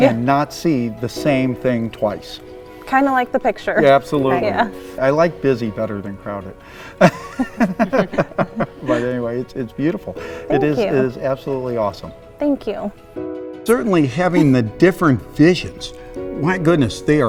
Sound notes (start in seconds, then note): 6.8 laughs